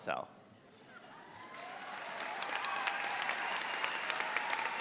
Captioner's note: audience applauds